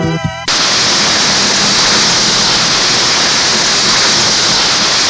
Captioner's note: static crackles